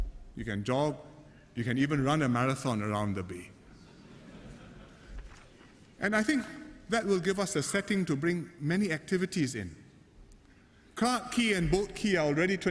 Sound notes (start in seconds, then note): 3.7 laughter